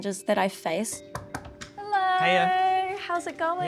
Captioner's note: knocks on door